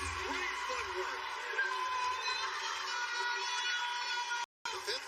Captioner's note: cheers and applause